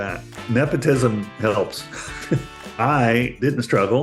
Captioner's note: chuckles